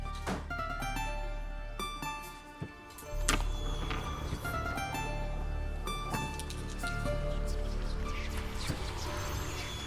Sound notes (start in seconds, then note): 3.3 marble rattling; 3.3 ominous whispers